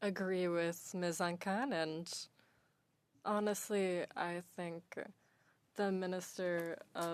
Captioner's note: speaking French